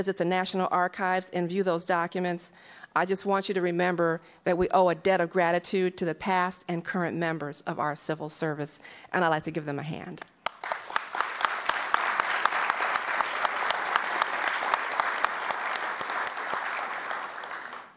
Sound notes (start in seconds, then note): 10.2 applause